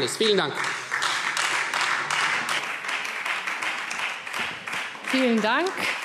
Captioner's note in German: Beifall Freie Demokraten